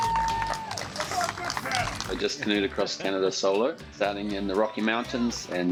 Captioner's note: applause